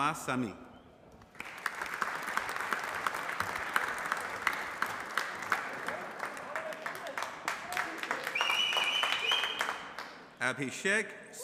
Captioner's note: applause